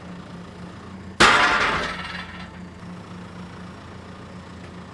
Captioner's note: wood crashing down; engine running calmly